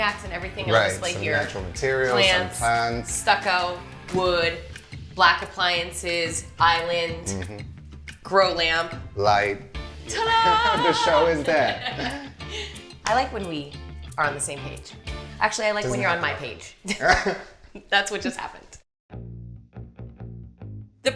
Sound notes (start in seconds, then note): 16.8 both laughing